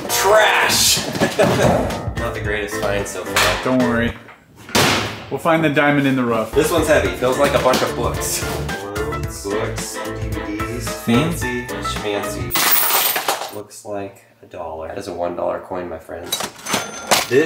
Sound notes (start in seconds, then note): 12.5 coins falling